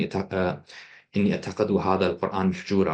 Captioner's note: non-english